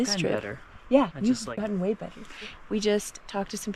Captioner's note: waves